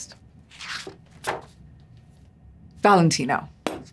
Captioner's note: pages crinkle